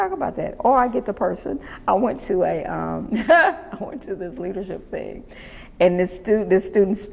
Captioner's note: laughs